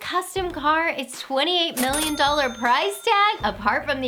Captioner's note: cha-chinging